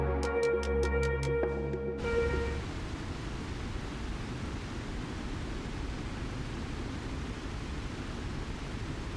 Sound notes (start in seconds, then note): 2.0 white noise